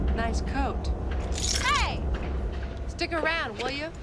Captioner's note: keys jingle